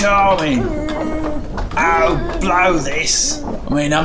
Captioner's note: clanking and shouting